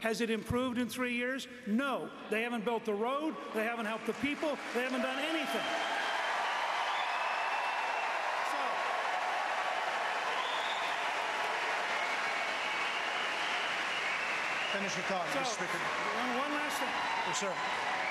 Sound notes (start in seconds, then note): 6.3 applause; 8.4 applause